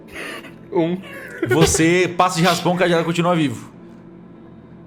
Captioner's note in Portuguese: Risada